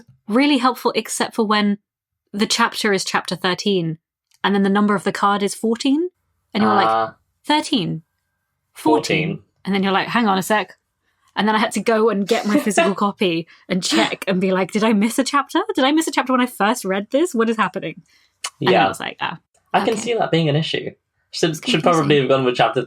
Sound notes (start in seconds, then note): 18.6 laughs